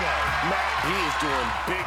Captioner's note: screams